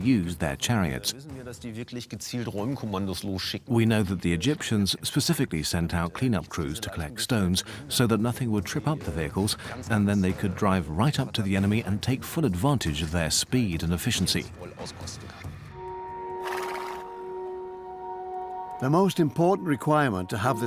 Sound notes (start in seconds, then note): 16.4 horse nickers